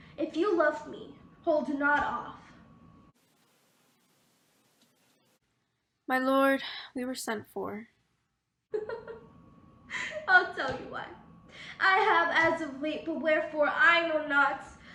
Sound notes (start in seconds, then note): 8.9 laughing